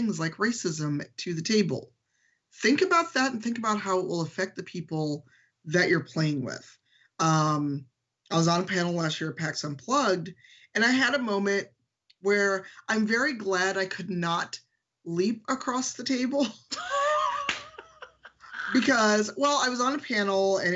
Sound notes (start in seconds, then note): 16.4 laughing; 16.4 laughs